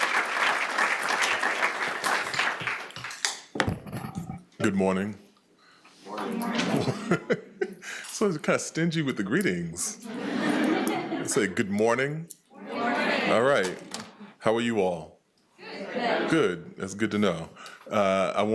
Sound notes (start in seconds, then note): 9.9 attendees laughing